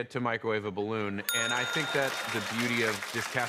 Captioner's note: ding